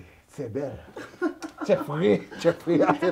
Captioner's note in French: rires